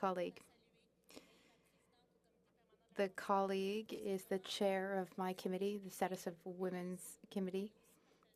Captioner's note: speaking French